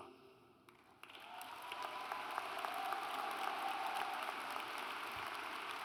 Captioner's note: audience applauds